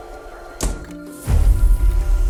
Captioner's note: door shuts